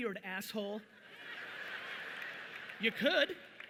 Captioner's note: audience laughing loudly